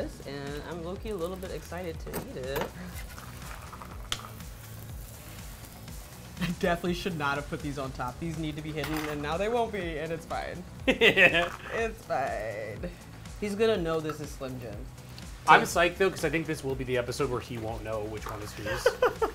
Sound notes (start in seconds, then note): 10.8 laughs; 18.6 laughs